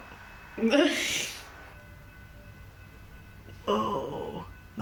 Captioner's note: laughing